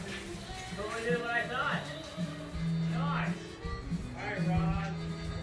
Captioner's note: voices in the distance